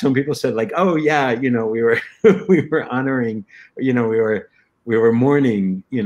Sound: laughter

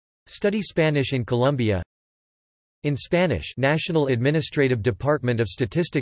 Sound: in Spanish

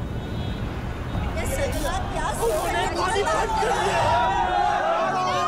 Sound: crowd chattering

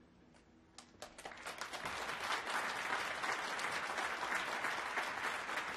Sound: applause

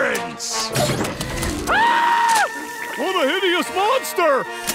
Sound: screaming

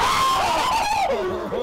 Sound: screaming

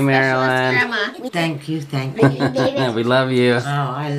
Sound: chuckling

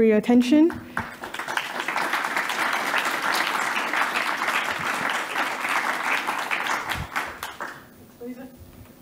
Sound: applause

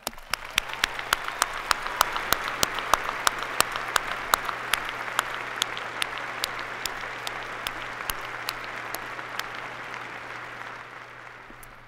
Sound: applause

